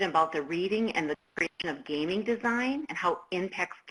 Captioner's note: static interrupts speaker